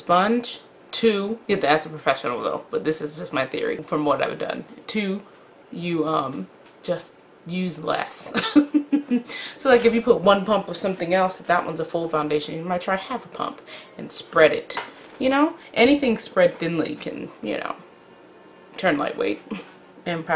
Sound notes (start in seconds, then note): 8.4 laughs